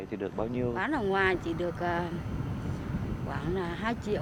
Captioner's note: speaking Vietnamese